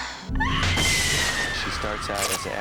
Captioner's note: screams